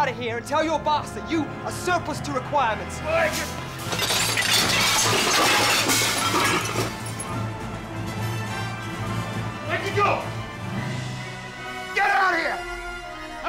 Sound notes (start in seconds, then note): 3.8 plates shattering; 5.4 exciting music